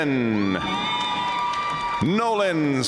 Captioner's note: audience cheering and applauding